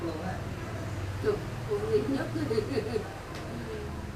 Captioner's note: laugh